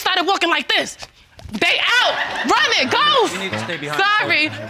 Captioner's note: audience laughs